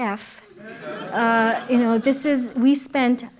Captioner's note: laughter